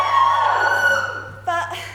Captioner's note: audience cheers louder